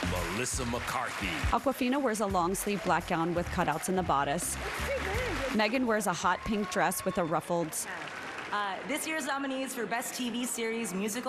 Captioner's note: applause